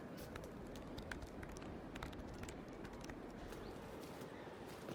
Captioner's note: typing